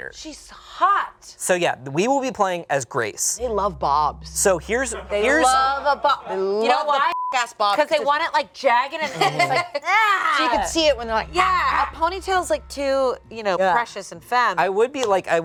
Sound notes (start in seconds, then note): 7.0 beep